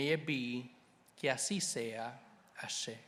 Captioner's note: speaking Spanish; speaks in foreign language